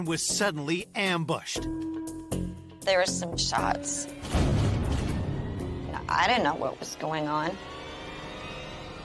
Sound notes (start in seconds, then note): 4.2 gun firing; 7.9 rising suspenseful music